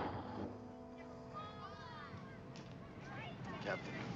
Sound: engine dies; crowd mutters

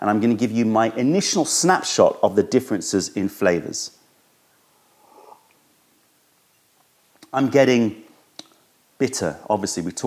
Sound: sips tea

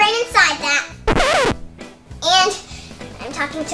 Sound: noise signal

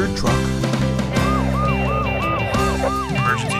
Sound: upbeat music; siren wailing

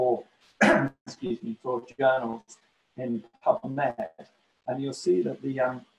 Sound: cough

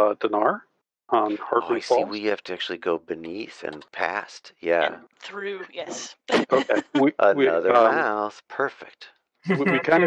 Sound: singsong

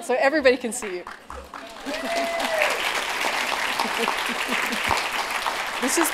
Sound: applause

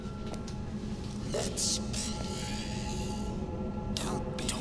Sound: demonic Voices

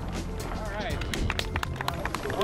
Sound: applause

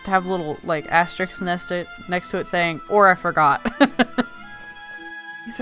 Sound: laughs

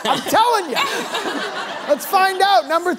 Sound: laughter

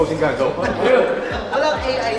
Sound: laughs

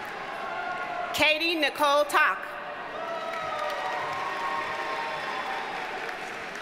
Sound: audience cheers and applauds

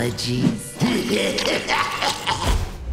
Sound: laughing

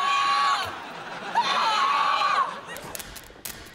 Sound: screaming

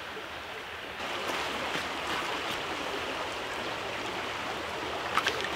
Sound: water rushing

